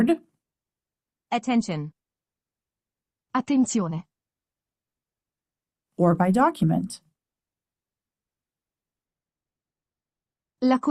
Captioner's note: undetermined Italian audio